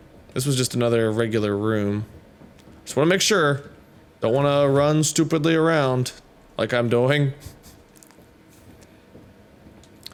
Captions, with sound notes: This was just another regular room. Just want to make sure! Don't want to run stupidly around. Like I'm doing. [Lightly Laughs Through Nostrils]